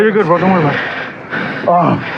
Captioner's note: pantiting; grgroaoans